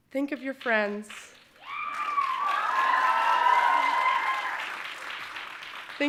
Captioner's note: audience cheering and applauding